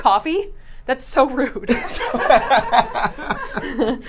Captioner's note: laughter